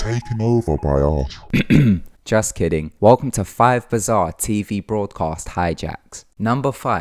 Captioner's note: clear throat